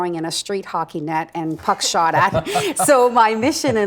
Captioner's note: laughing